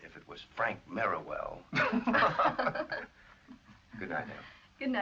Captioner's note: laughs